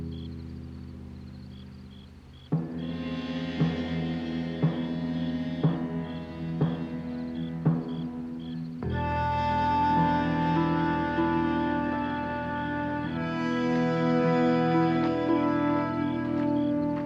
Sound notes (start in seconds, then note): 11.6 footsteps